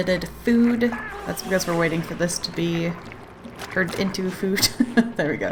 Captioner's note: laughs